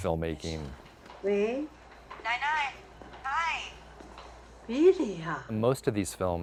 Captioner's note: female movie character speaking foreign language